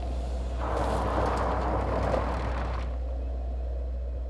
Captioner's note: tires scraping